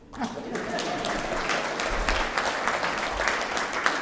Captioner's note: applause